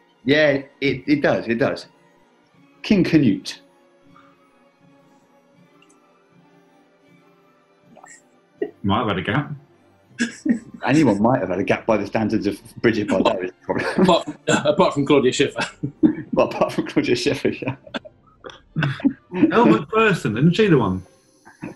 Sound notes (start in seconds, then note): 10.2 giggling; 18.4 laughing